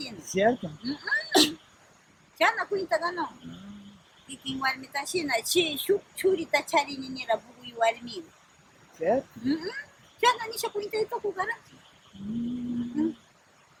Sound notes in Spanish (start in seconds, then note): 12.1 mmm